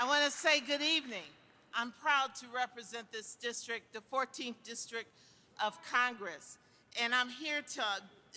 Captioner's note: applause